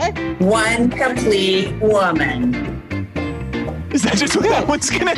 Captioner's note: laughs